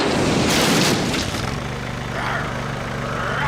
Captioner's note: growling